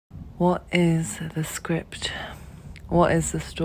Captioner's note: narrator speaking